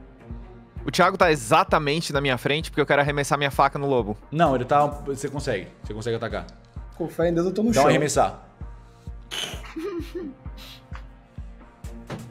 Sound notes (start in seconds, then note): 9.5 laughter